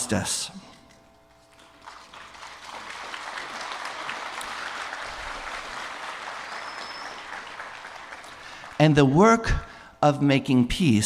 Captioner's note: applause